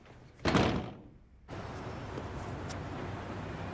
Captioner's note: door closing